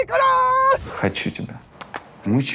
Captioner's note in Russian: кричит нечленораздельно; Ира дважды чмокает